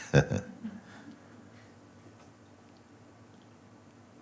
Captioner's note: Mooji laughs